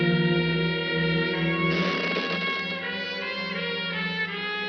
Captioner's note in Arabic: تصرخ النافذة